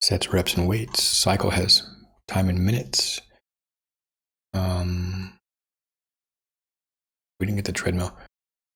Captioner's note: silence; silence